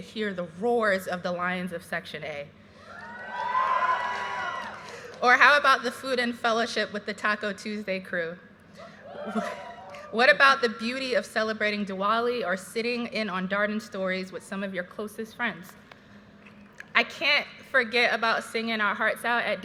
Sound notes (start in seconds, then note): 2.8 audience cheers